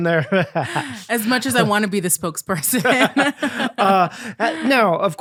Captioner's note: both laughing